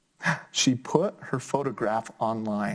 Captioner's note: gasps